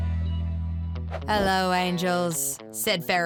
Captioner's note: British accent